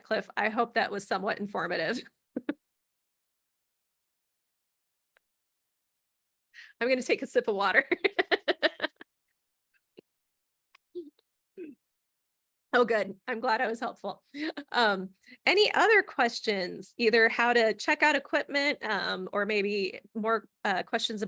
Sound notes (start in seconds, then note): 8.0 laughing